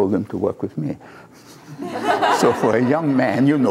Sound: laughter

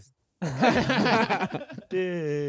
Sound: Sidemen laughing

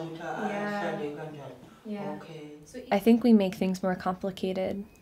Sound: speaking native language

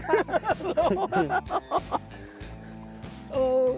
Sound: both laughing

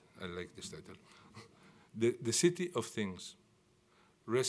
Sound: none

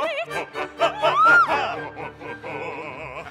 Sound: she screams; pirates laughing

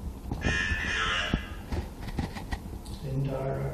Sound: electronic Voice

